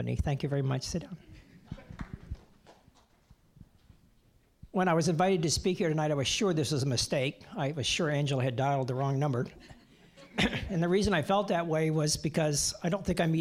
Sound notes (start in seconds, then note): 9.6 audience chuckling